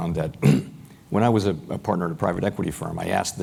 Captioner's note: cough